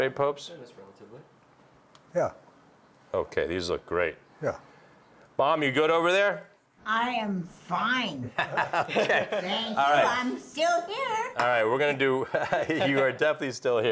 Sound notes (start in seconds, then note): 8.3 laughing